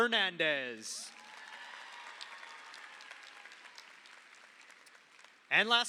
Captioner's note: audience cheers; audience applauds